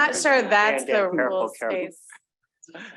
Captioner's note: audience chuckling